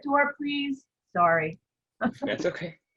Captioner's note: all laugh